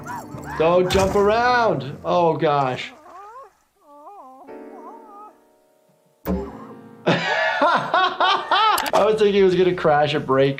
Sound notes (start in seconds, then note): 1.5 Handy moaning; 7.0 laughing; 8.7 keyboard clicking